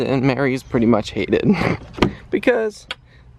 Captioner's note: chuckles